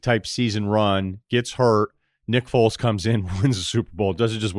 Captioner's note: laughs